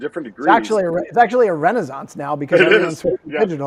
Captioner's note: whispers